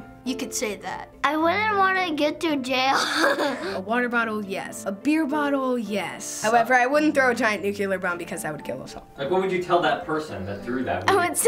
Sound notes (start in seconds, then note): 2.9 laughs